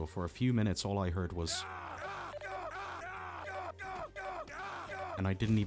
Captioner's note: repeated rebel death screams